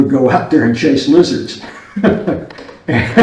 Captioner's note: laughs